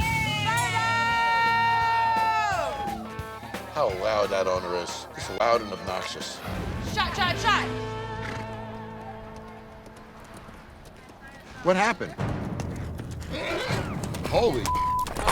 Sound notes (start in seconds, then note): 8.1 horse snorts; 12.1 dramatic music; 13.2 horse whinnies